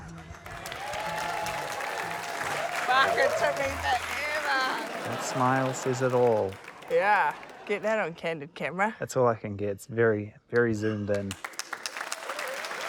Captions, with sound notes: (CHEERS, APPLAUSE) - Fuck, it took me forever. - That smile says it all. - Yeah, get that on Candid Camera. - It's all I can get. It's very, very zoomed in.